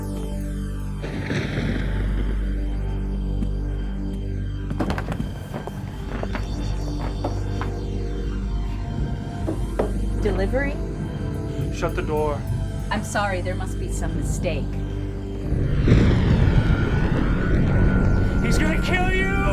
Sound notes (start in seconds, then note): 1.3 thunder crashing; 4.7 rustling; 14.9 thunder crashing